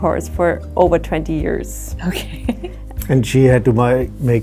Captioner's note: laughs